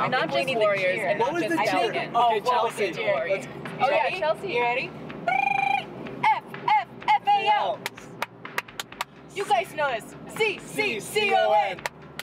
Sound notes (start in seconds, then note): 3.2 chattering; 5.3 trills tongue; 8.5 clapping; 11.8 clapping